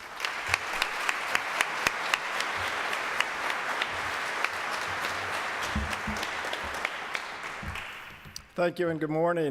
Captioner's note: applause